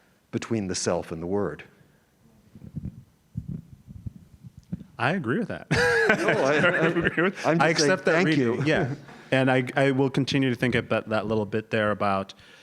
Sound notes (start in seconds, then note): 5.7 laugh